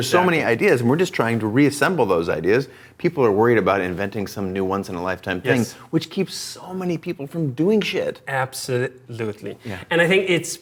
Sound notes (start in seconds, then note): none